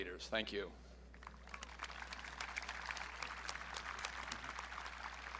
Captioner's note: audience clapping